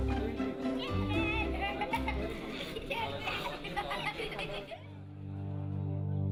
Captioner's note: children giggling